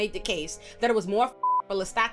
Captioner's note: beep